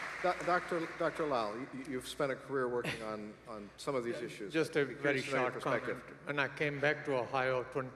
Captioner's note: applause